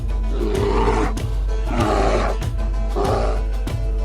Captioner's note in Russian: Яростный боевой рёв